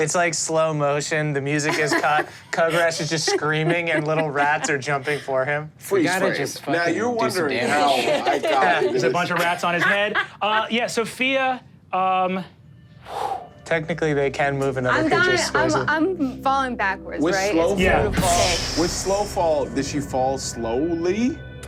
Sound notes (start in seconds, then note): 10.5 Sofia laughs; 13.0 sighs